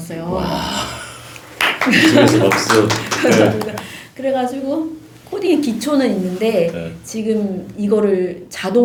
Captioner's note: applause~^^